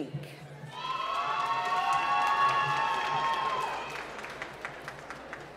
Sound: cheering and applause

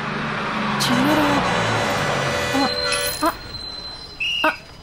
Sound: horn blares

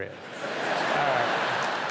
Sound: audience laughing

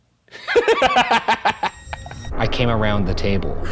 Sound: laughing

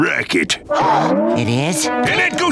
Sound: gasping

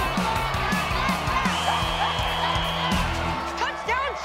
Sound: whistle blowing

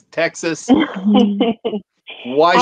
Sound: chuckles

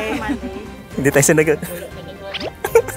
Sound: laughs

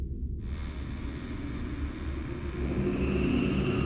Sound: door Creaks

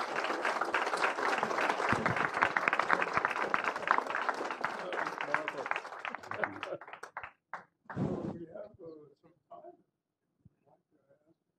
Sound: applause

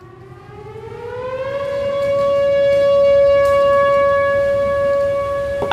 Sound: sirens going off

